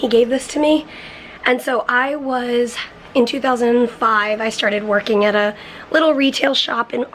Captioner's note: none